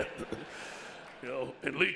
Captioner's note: audience laughs